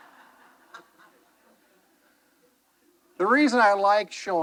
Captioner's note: attendee laughing